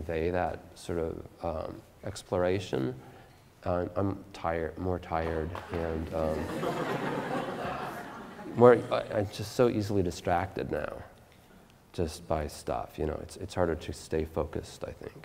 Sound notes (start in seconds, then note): 5.3 audience Laughter